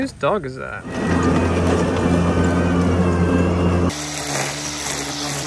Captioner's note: engine revving